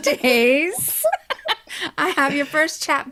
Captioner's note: both laughing